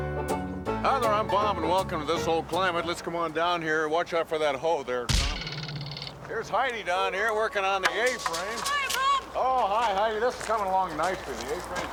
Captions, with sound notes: HI, THERE. I'M BOB, AND WELCOME TO "THIS OLD CLIMATE." WATCH OUT FOR THAT HOE THERE, TOM. HERE'S HEIDI DOWN HERE WORKING ON THE A-FRAME. [ German accent ] HI, BOB! OH, HI, HEIDI. THIS IS COMING ALONG NICELY.